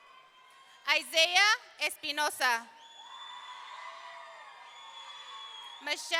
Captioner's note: audience cheering; audience cheering